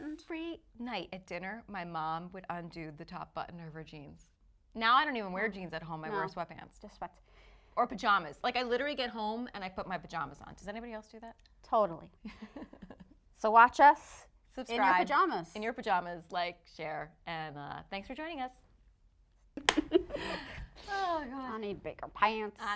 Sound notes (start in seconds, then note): 18.7 laughing